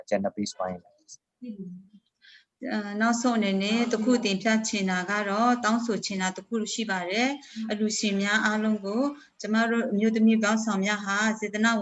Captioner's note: speaking in another language/ Interpretation